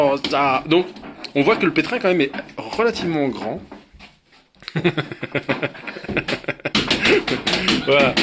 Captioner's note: laughs as I monkey around